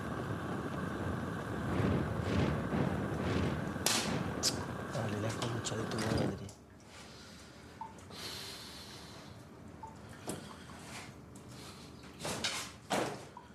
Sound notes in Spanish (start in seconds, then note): 3.8 chasquea la lengua; 12.1 gotera